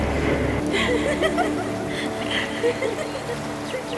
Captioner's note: laughing